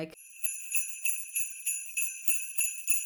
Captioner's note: sleigh bells